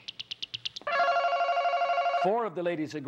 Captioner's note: ringing